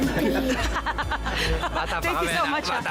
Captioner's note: both laugh